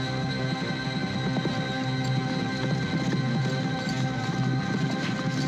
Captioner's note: horses galloping